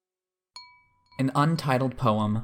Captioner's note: chime sound